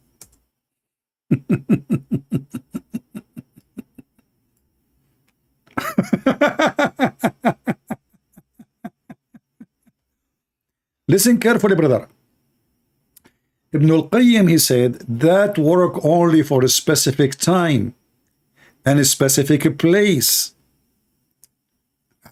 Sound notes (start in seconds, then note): 1.1 Ketawa